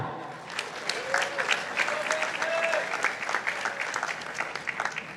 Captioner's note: participants applauding